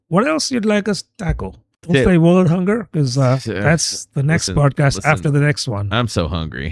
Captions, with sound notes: else you'd like us tackle? They hunger because [UH] that's the next podcast after the next one, I'm so hungry